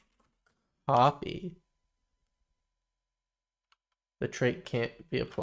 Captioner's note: silence